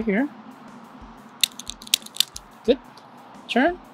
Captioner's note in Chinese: 喀嚓的声音